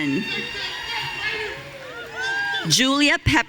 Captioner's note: audience cheering